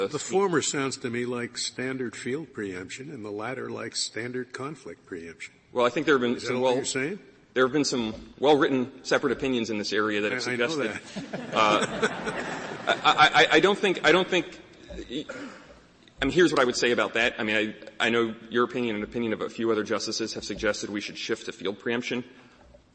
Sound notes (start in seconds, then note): 10.8 laughter